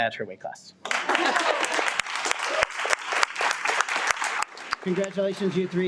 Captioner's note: audience applauds